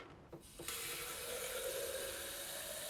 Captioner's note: water gushes